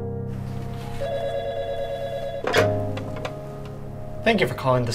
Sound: phone ringing

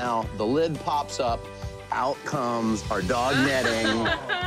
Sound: laughs

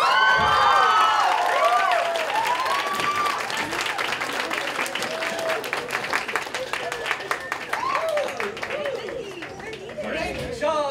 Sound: applause

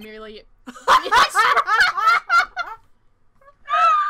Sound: laughs

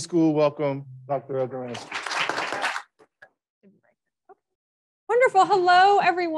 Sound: audience applauds

